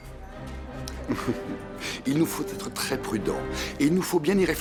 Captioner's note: laughs